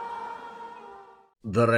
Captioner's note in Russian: ликование